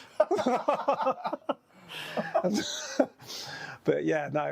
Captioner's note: both laughing